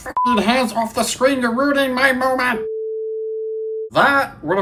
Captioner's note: tv beep